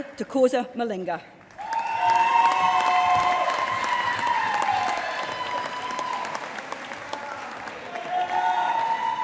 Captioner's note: applause